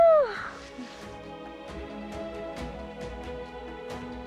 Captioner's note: sighs